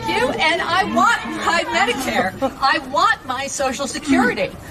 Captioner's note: cheering